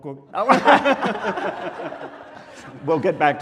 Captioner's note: laughing